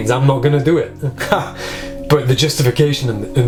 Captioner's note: laughs